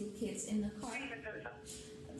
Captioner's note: radio chatter